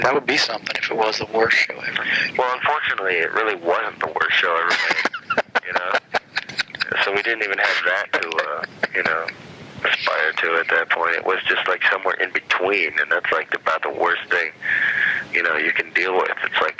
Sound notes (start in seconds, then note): 7.1 laughter